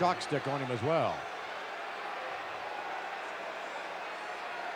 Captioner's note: audience cheering